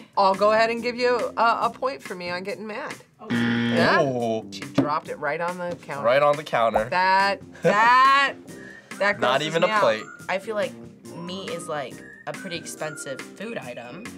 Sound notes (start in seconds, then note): 3.2 buzzer rings